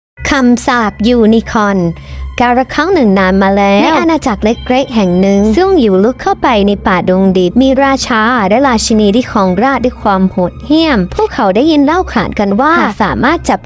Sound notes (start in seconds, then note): 3.6 Duang